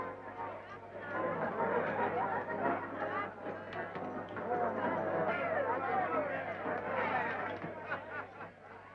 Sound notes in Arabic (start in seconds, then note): 0.8 الزبائن يضحكون ويثرثرون